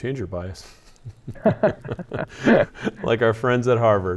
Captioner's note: both laugh